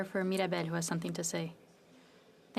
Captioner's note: speaking French